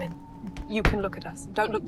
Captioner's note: wind howls